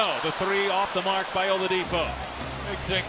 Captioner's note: cheers and applause